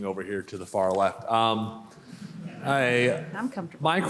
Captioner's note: laughter